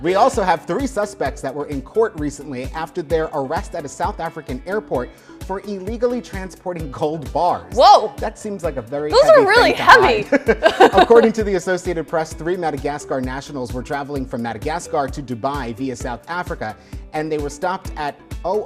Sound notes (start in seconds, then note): 9.9 both laughing